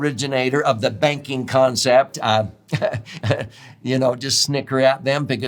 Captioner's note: chuckles